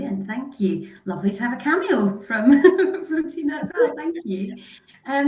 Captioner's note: laughs